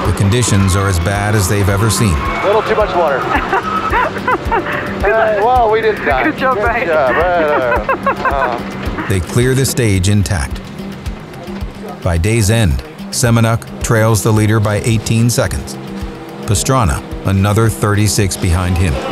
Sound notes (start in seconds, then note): 3.2 laughing; 8.3 laughing